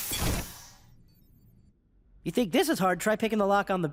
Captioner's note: door hisses open